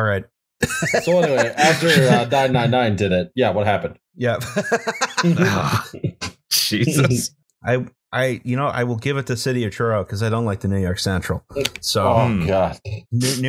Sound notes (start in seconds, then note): 1.4 laughter